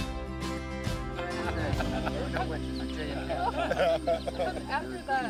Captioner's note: people chatting and laughing